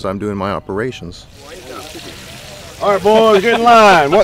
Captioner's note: fire crackling